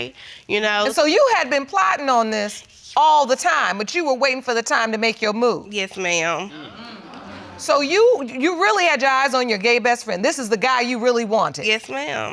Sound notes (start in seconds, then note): 6.4 audience exclaiming